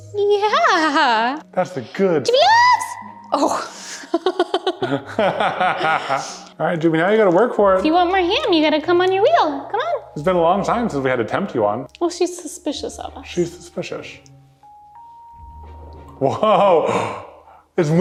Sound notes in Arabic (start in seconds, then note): 3.0 صرخة عالية; 3.4 يضحكان معًا